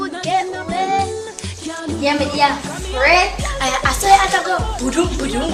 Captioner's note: makes heart noises